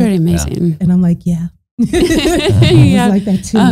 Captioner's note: both laughing